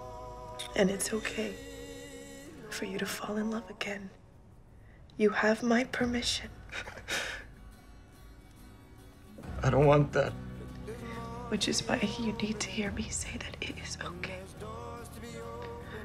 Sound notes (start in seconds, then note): 6.6 sobs